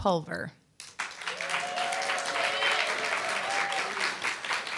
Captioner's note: applause, cheer